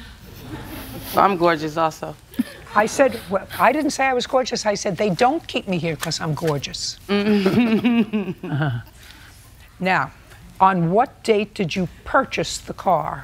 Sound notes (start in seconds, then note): 0.4 laughter; 7.2 laughs